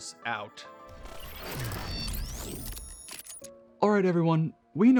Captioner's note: electronic sound effect